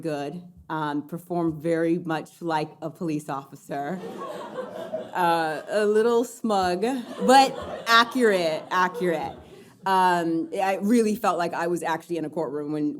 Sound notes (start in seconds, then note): 4.0 audience laughing